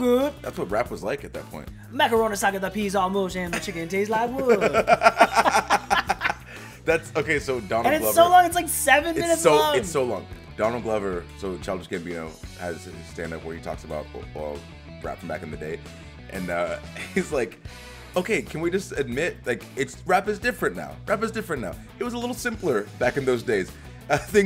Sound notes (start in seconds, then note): 4.3 laugh